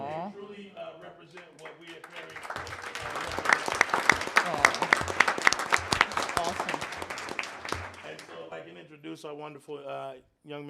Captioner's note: applause